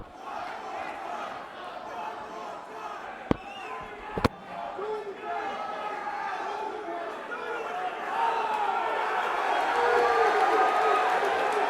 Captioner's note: crowd cheering